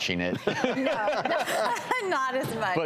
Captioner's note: laughing